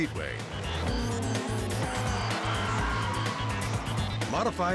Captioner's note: engines revving; tires screeching